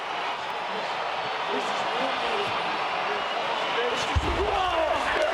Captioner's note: crowd cheers